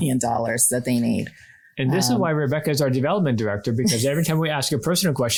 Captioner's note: laughs